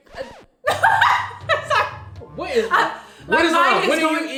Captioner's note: laughs